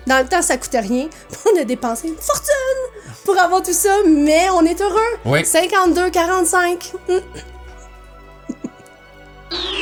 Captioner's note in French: rire